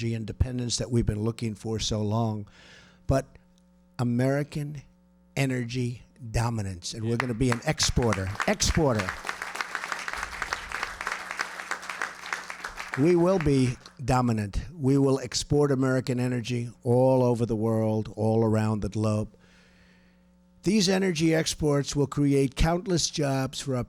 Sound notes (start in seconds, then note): 9.2 applause